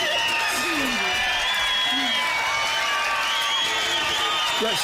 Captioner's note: cheers